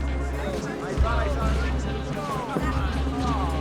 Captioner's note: rowdy chattering